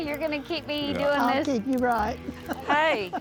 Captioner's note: laughs